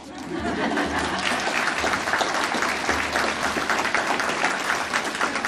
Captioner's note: audience applauding